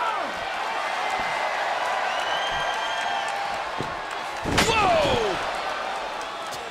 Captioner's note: applause